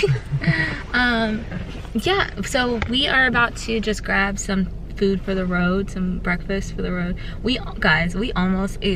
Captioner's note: laughs